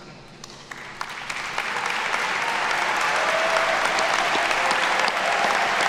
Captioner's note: attendees cheer and clap